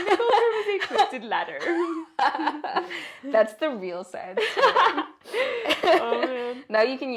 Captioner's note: laugh